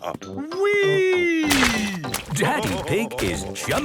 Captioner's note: splashes